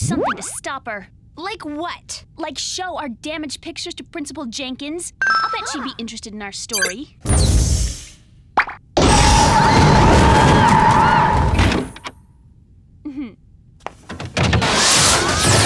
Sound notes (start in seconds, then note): 9.1 doors open; 10.7 screaming